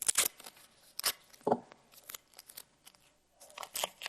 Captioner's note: paper rustling